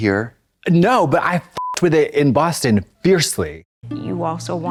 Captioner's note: beep